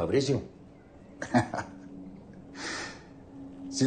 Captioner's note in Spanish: Risas